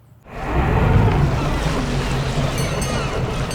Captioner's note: boat engine whirring; water splashing; seagulls calling; boat bell ringing